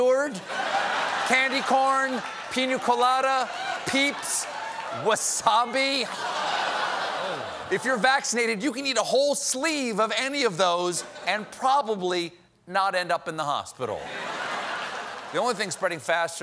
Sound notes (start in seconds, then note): 5.9 laughter